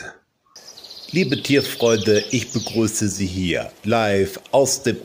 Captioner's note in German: Vogelzwitschern